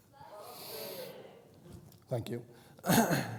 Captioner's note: crowd